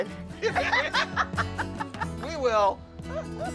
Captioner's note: both laughing